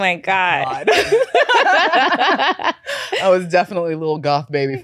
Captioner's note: both laughing